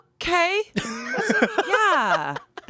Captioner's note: laughs